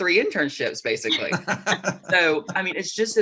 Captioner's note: laughs